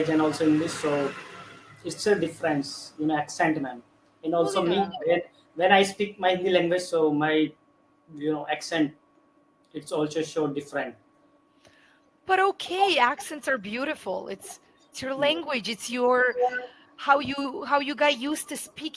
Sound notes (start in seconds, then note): 7.3 hindi